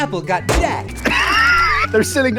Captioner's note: wheeze